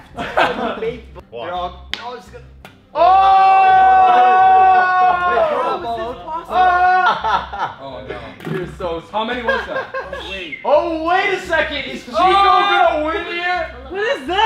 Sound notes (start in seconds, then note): 0.1 members laugh in background; 2.9 members whoop